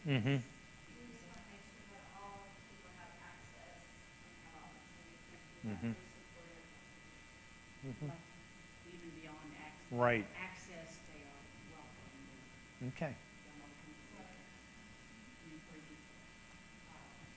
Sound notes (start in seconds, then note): 5.0 speaking off mic